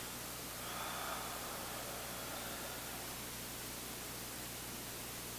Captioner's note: exhaling